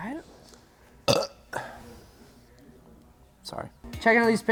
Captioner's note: belches